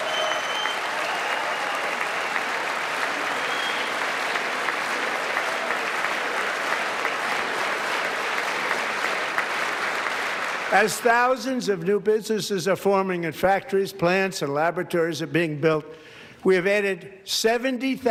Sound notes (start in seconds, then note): 3.9 applause